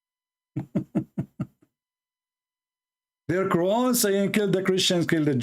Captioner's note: Ketawa